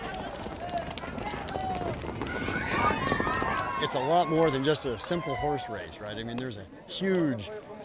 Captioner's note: cheering